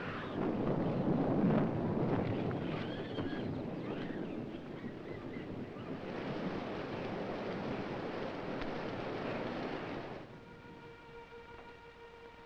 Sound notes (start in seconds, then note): 0.0 thunder rumbling; 6.6 wind whirring